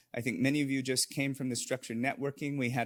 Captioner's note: none